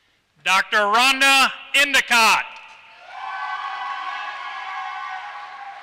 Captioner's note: applause